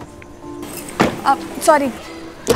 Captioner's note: Car door closes